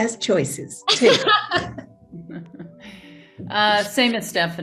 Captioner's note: Tig and Stephanie laughing